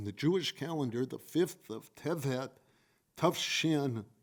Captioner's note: speaking foreign language